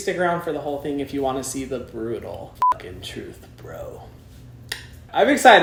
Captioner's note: beep